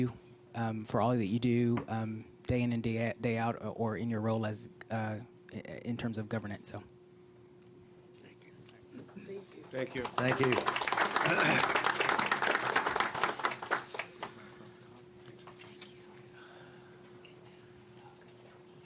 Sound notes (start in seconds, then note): 8.1 applause